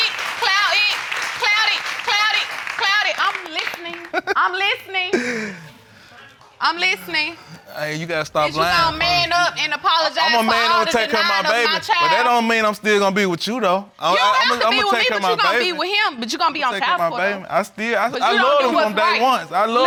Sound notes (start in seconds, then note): 5.1 snickers